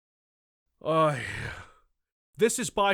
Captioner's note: sigh